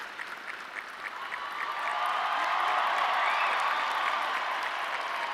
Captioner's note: audience cheering